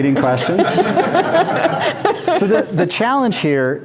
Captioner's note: group laughs